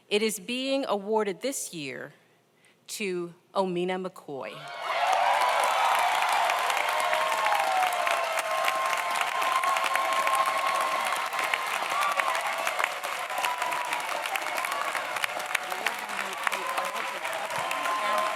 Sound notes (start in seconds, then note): 4.9 audience applauds; 4.9 audience cheers